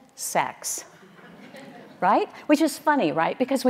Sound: audience laughing

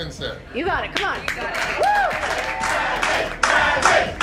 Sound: crowd

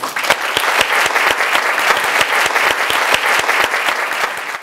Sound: audience applause

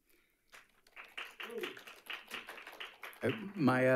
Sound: audience applauds

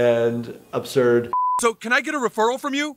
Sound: background tonal beeping

